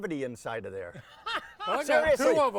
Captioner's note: laughing